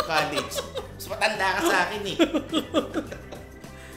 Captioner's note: continues laughing; laughs